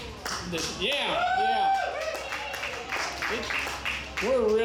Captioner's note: audience cheers